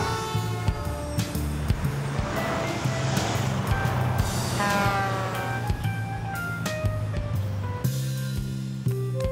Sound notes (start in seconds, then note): 3.9 horn honks